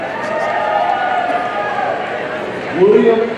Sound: audience cheering

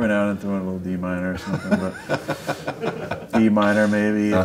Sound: laughs

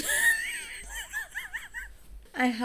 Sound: wheezes

